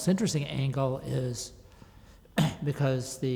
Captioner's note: clears throat